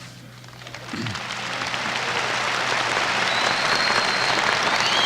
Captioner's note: applause